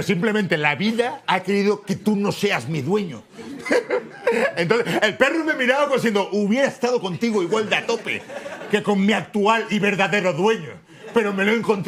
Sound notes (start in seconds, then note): 3.3 laughs